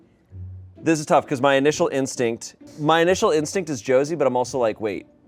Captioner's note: none